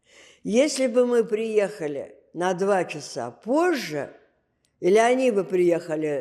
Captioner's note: none